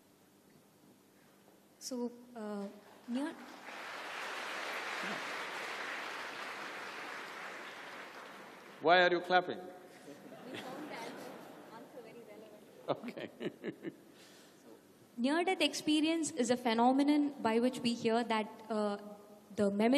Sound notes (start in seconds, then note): 5.9 applause; 10.1 laughter; 13.0 laughs